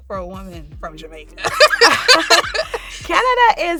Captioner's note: both laughing